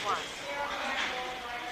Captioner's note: woman Over PA